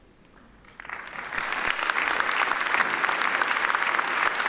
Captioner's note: attendees applaud